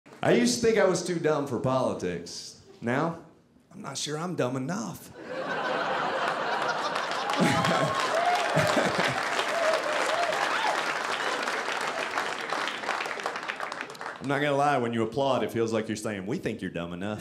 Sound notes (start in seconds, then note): 5.2 audience laughing; 7.2 audience applauding